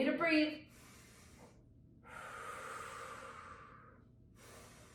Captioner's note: breathing deeply